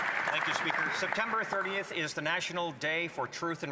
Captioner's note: applause